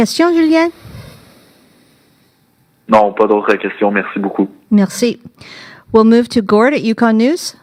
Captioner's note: speaking French